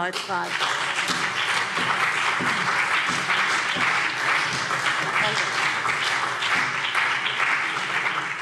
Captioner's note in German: Beifall